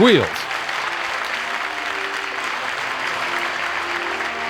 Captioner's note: crowd applauds